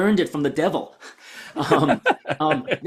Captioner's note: laughs